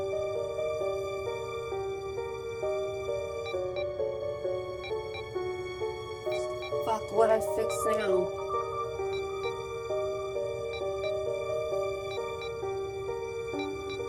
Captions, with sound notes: (Beeping) Fuck, what I fixed now?